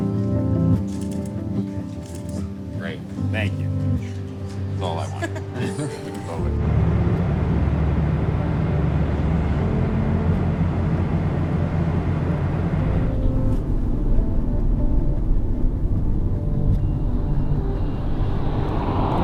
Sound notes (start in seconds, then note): 5.0 laughter; 5.8 jet engines roaring